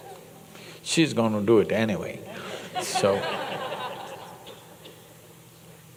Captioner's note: laughter